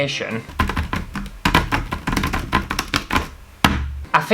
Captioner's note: frantic Keyboard Tapping